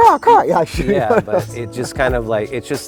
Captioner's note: laughs